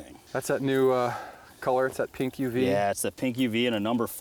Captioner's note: voiceover